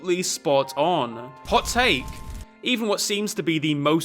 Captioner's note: fire crackling